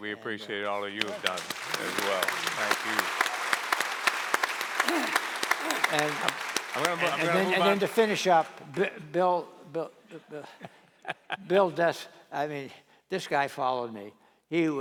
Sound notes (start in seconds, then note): 3.8 applause